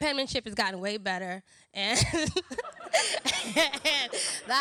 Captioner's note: laughs